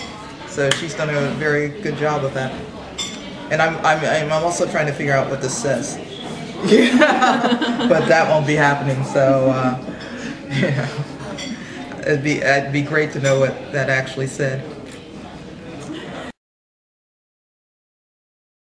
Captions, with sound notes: So she's done a very good job of that, and I'm also trying to figure out what this says, (laughs) but that won't be happening, so it would be great to know what that actually says. Recently Laurel Holloman